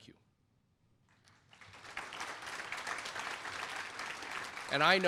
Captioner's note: applause